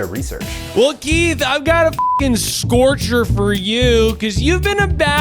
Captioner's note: beep